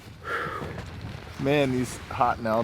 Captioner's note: loud exhale